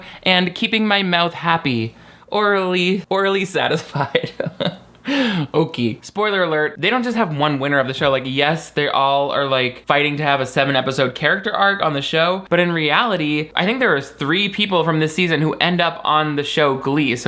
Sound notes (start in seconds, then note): 3.8 laughs